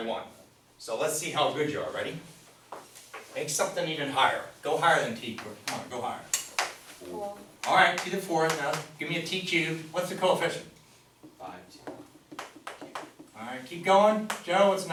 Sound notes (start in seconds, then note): 0.0 voiceover; 6.7 voiceover; 11.9 voiceover